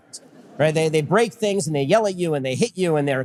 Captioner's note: audience laughter